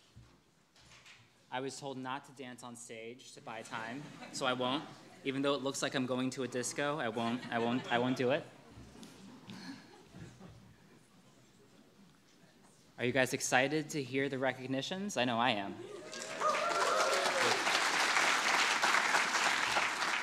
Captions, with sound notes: - I was told not to dance on stage to buy time, so I won't. (audience laughing) Even though it looks like I'm going to a disco, I won't, I won't do it. (audience laughing) Are you guys excited to hear the recognitions? I know I am. (audience cheering and clapping)